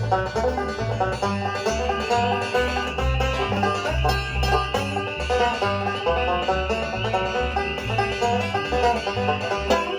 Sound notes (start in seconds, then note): 0.0 frogs ribbit; 1.4 insects chirp